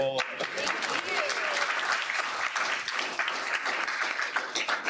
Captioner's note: applause